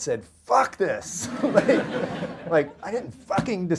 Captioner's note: audience laughter